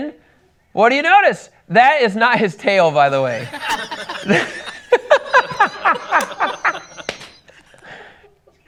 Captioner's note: laughs